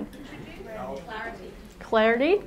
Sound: audience chatters

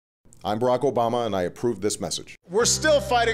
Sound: voiceover

